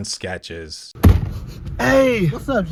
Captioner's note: sniffs